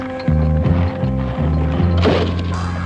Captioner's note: shouting